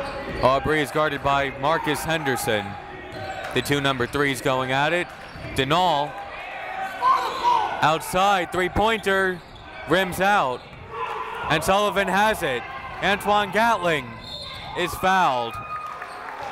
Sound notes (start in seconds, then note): 14.2 whistle